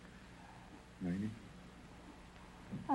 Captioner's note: whispering